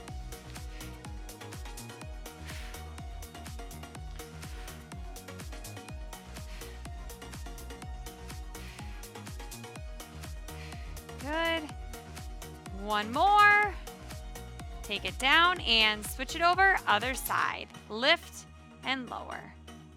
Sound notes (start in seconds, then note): 0.2 upbeat lively music; 2.3 exhaling deeply